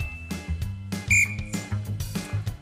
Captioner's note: whistle blows